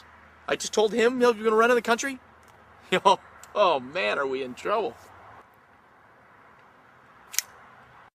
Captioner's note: click